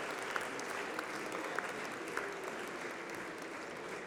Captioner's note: applause